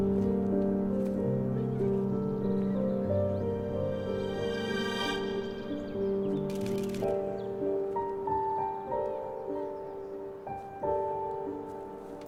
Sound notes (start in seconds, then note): 7.4 camera shutter snapping